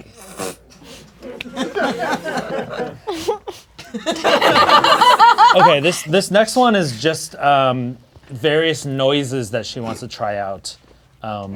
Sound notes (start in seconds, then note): 0.9 crowd laughing; 3.4 laughing